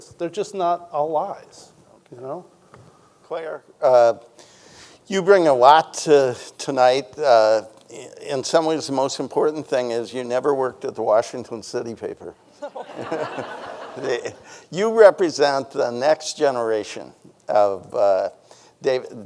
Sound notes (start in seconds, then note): 12.6 chuckles; 12.6 audience laughing